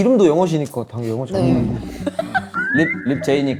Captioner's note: tired